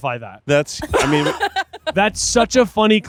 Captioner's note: laughing